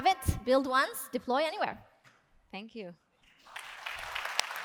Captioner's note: claps